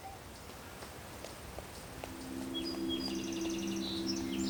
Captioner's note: birds chirping